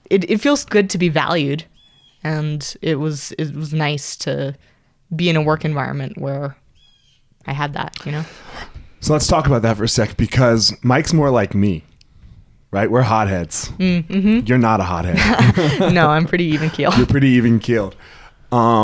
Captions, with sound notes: It feels good to be valued, and it was nice to be in a work environment where I had that. - So let's talk about that for a sec, because Mike's more like me, right? We're hot heads. You're not a hot head. - (laughs) No I'm pretty even keeled. - You're pretty even keeled.